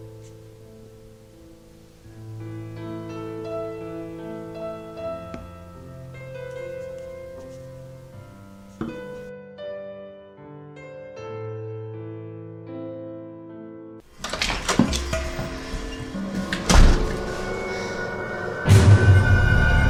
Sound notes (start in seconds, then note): 14.1 door opens; 14.4 suspenseful music; 16.8 door slams